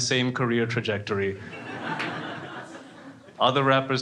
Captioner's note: crowd laughing